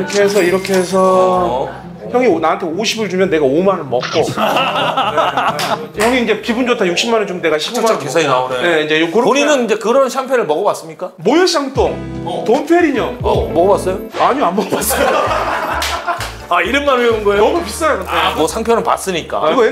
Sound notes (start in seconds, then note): 4.2 ahahahaha